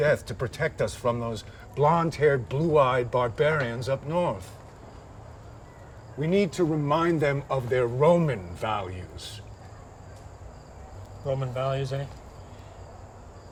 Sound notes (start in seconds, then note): none